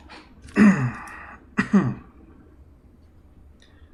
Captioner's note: coughs